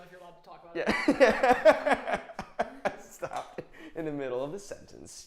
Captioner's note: laughs loudly